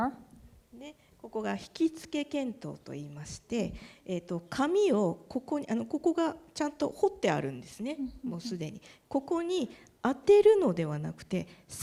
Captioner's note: speaking japanese